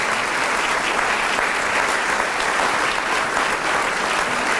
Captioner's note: applause